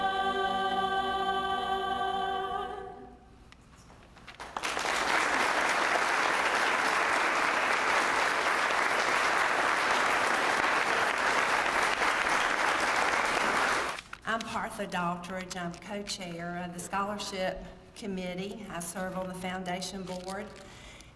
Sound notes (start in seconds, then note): 4.3 applause